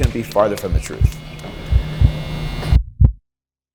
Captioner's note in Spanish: latido del corazón